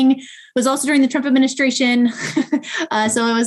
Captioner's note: laughing